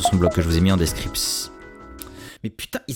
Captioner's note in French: Alerte batterie des airpods